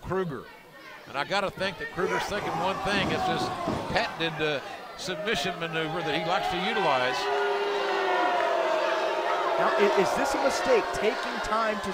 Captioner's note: crowd cheering